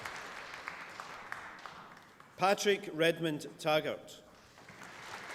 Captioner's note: applause